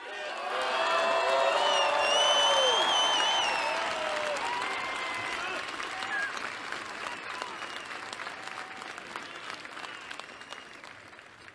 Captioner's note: applause